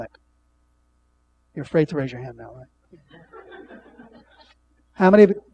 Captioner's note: laughing